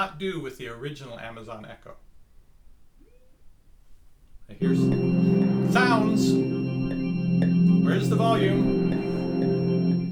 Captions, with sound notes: with the original Amazon Echo. (loud tone) Sounds, where's the volume?